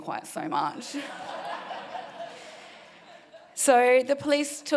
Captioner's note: audience laughing